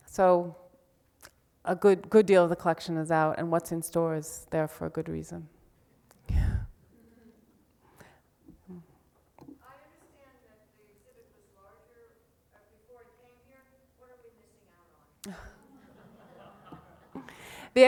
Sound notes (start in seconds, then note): 9.8 voiceover; 15.2 laughs; 15.7 audience laughs